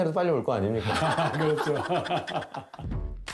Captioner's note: hahahahaha